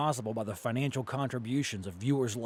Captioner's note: voiceover